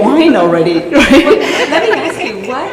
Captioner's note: laughter